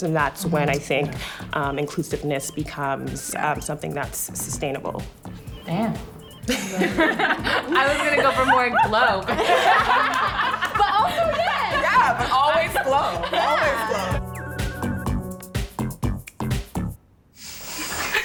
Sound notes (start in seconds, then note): 9.4 laughing; 13.9 upbeat techno music; 17.9 laughing